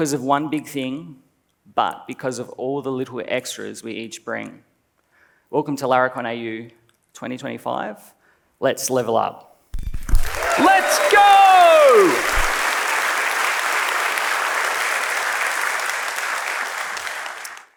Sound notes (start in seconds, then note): 10.0 audience clapping